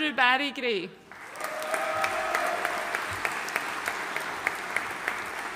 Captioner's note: audience cheering and applauding